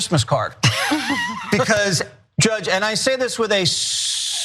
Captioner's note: laugh